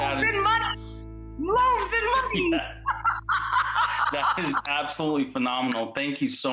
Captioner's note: laughing